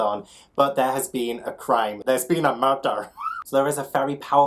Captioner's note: laughs